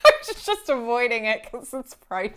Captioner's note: laughing